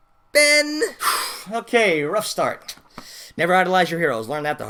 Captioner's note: sigh